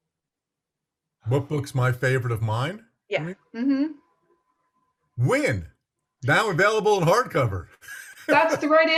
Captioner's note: laughs